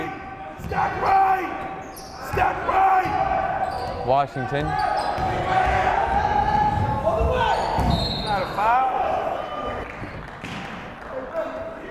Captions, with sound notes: Ojugbele. (yelling) Washington. (whistle blowing) (yelling)